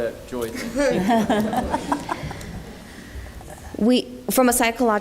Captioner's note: laughter